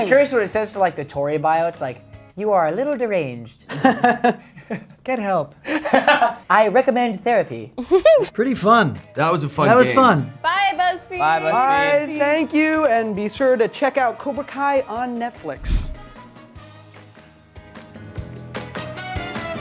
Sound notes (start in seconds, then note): 3.7 all laughing; 5.7 laughing; 7.8 Mary giggles; 15.6 suspenseful music playing